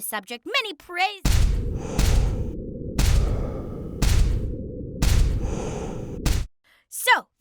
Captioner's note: banging